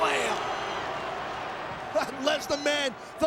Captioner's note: audience cheering